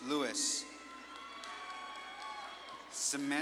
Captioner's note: audience claps and cheers